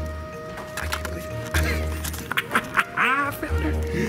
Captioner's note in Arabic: الثرثرة